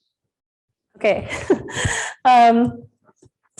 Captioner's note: chuckles